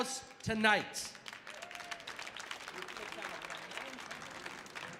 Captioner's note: audience applauding